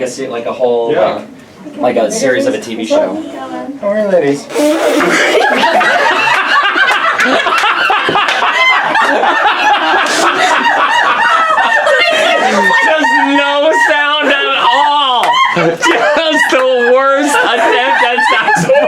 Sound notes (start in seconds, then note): 4.4 spitting; 5.8 laughter